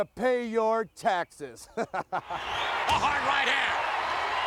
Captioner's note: laugh